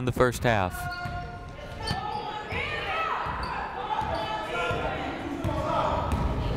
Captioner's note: people shouting in the crowd